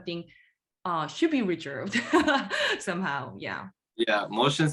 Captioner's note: laughing